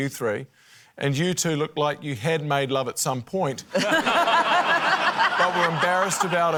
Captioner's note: laughter